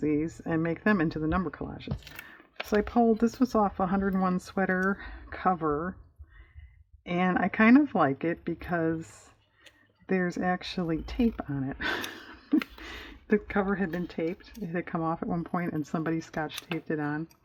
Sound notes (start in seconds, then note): 11.6 laughs